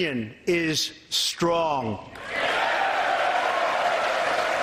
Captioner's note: applause